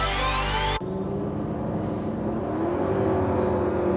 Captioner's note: engine roars